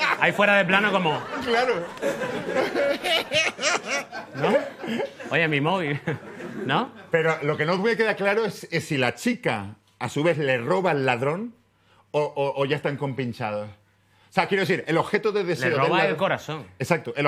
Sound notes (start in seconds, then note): 0.8 laughter; 3.4 laughs